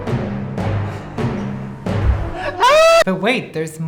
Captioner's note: laughing